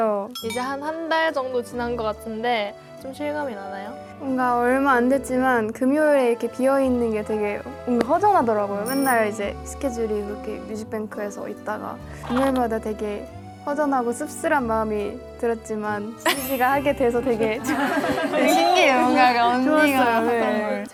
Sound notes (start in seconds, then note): 12.2 sob sob